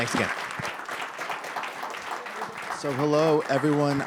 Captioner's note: applause